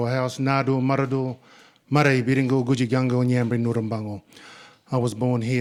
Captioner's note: speaking in Ngunnawal